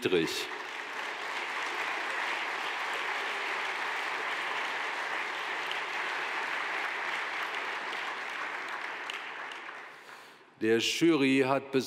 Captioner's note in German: Beifall